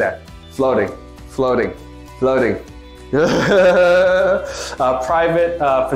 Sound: laughs

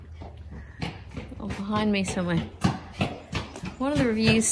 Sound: heavy foot falls as catches up

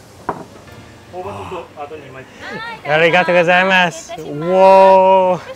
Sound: gentle music; speaks in foreign language

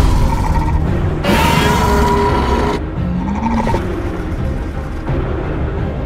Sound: Scorpius Rex growls; music intensifies

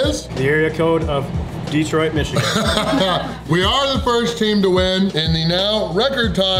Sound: haha

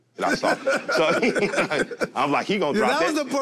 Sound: laughs

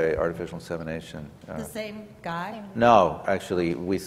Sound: voiceover

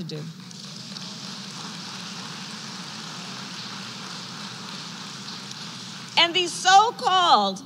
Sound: applause

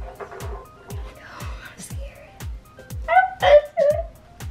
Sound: whispers

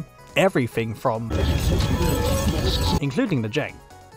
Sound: demoinic sounds of a competive hellscape

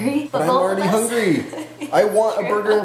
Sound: laughs

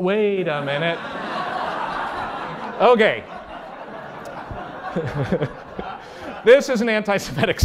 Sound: laughter

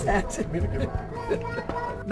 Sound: laughter

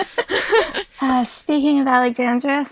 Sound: hosts laugh

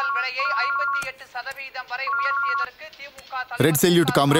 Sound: tv playing background

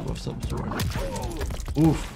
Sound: fighter groans

